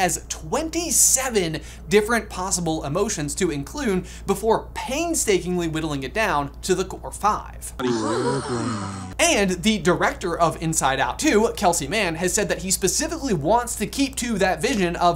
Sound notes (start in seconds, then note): 7.8 core five gasps